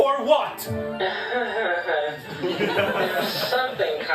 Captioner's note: chuckles nervously